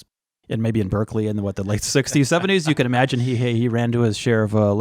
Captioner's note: laughter